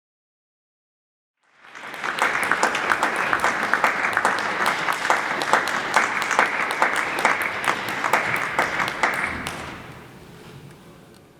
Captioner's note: applause